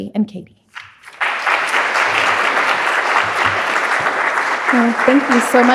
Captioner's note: audience applauding